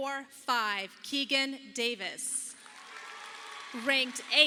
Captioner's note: audience applauding